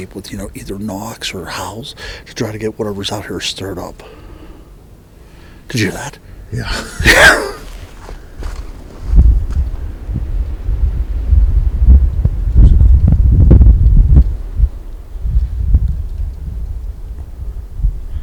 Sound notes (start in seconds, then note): 6.5 laughing; 9.4 wind billowing